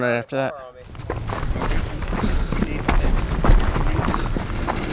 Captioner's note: engine revving